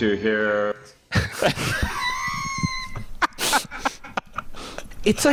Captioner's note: laughing